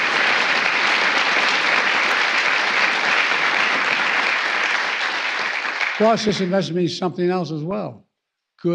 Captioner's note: applause